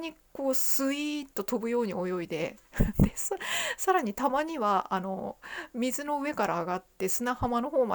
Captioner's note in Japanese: 笑い